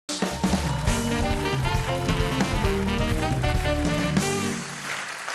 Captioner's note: applause